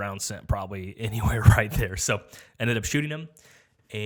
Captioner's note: chuckles